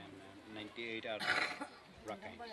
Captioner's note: background voices